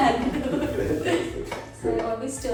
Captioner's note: both laugh